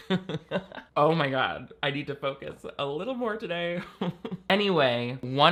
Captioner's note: laughs; chuckles